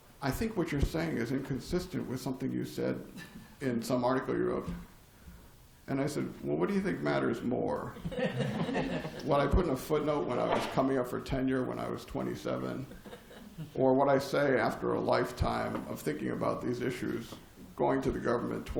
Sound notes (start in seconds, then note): 7.9 laughter